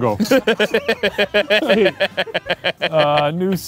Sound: laughing

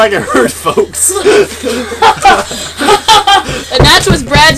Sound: laughter

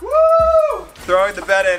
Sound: shouting

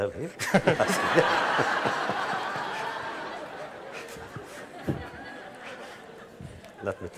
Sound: laughter

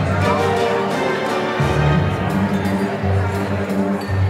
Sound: people chattering

